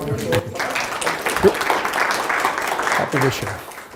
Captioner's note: audience applauding